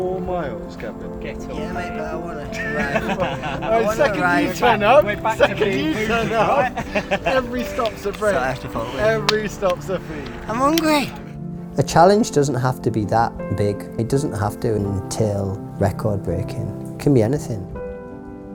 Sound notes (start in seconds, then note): 0.2 upbeat instrumental; 13.7 laughs